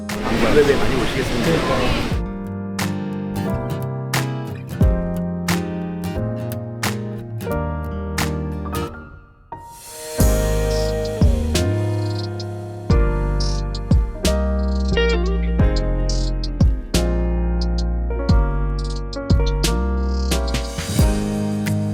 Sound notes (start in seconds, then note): 1.4 heart pounding